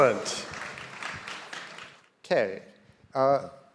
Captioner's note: audience applauding